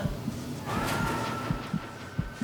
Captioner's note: tire screech, car crash noise, sirens